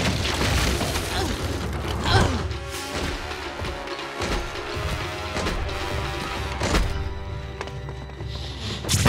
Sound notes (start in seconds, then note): 2.0 grunting